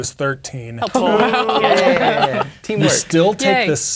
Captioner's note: laughing